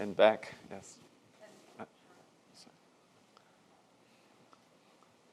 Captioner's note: speaking off mic